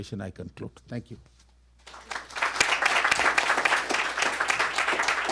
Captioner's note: applause